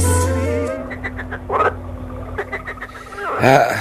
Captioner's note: croaking frogs